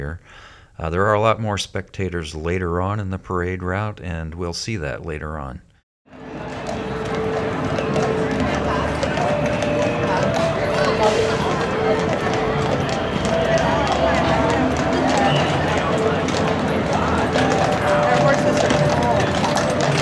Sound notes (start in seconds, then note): 6.1 ambient parade and city sounds; 6.1 including horse hooves clacking on pavement